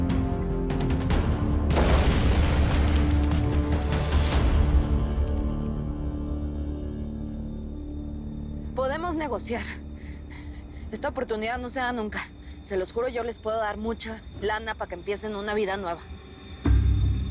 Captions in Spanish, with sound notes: [Explosión] - PODEMOS NEGOCIAR. ESTA OPORTUNIDAD NO SE DA NUNCA. SE LOS JURO, YO LES PUEDO DAR MUCHA LANA PA' QUE EMPIECEN UNA VIDA NUEVA.